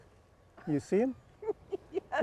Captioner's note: laughs